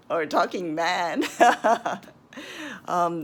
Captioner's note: she laughs